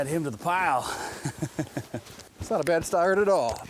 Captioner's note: laughs